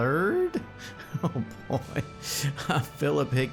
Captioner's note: chuckles